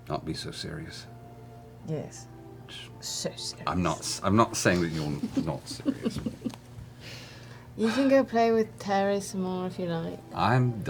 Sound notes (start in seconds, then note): 7.5 sighs; 8.2 exasperated voice